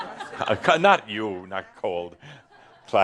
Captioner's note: laughter